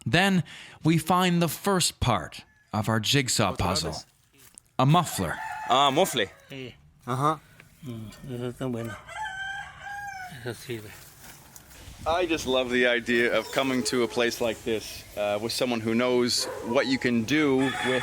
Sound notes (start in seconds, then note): 5.9 speaking Spanish